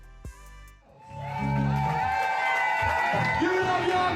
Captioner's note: audience cheering